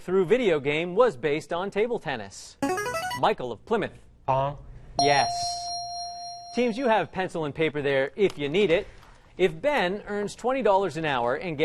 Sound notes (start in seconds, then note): 2.6 ringer; 5.0 ding